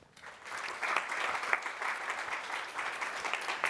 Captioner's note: applause